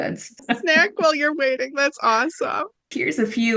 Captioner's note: laughing